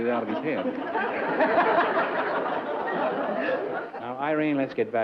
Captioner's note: laughter